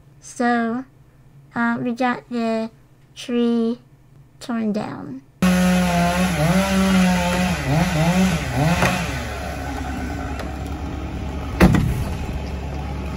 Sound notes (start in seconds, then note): 5.4 chainsaw buzzing